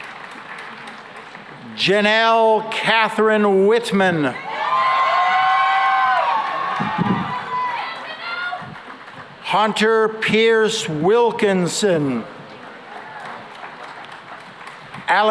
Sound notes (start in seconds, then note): 4.3 cheering and applause; 12.5 applause